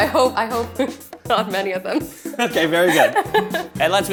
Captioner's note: laughs